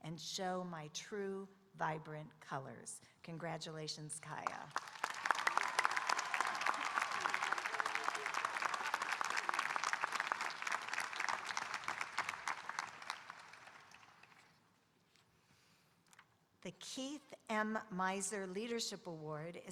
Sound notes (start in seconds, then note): 4.7 audience cheering and applauding